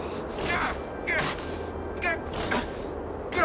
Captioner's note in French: grognement